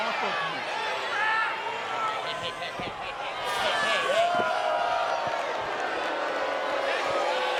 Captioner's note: applause